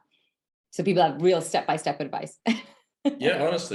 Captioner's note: laughs